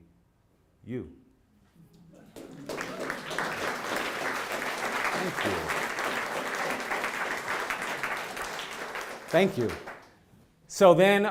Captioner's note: applause